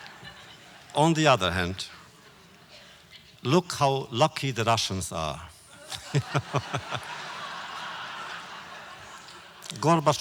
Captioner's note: laughter